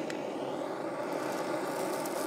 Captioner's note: hissing